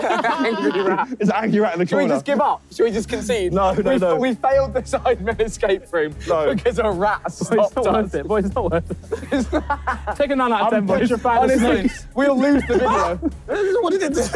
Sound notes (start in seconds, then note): 10.0 group laughing